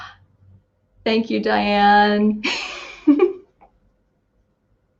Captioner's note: laughs